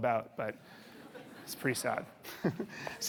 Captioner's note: audience laughing